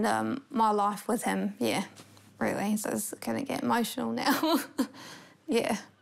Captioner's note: laughs